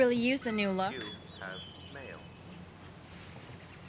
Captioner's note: voice from computer